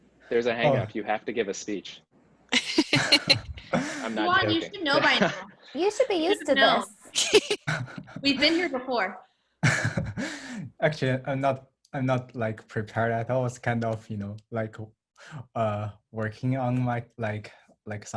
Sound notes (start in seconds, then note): 2.5 laughing; 9.6 laughs